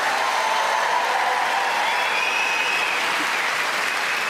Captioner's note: audience cheering